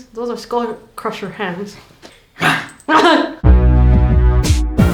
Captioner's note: fearsome growling